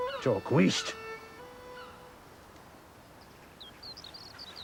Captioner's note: speaking foreign language